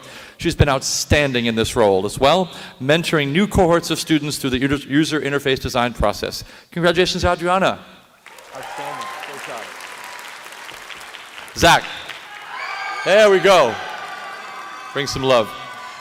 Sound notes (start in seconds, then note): 7.7 applause